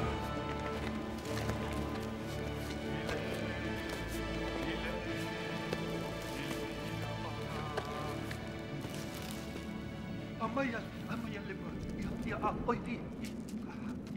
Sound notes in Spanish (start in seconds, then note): 10.7 discurso en otro idioma